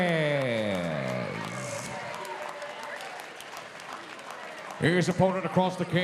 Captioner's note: audience cheering